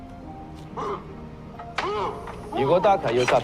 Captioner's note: grunting